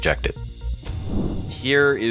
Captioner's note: air whooshes